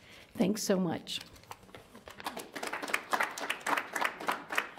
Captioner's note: audience applauds